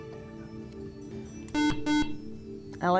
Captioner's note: buzzer